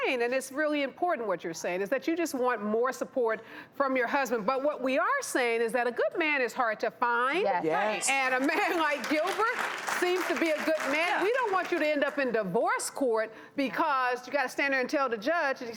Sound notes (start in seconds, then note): 8.1 audience clapping